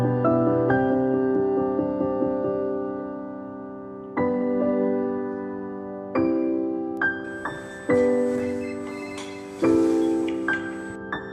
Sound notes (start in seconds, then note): 7.6 phone ringing